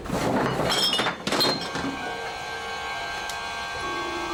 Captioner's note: crashing